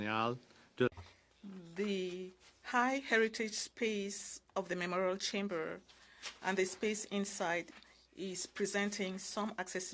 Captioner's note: speaking French